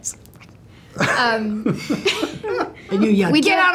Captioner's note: laughter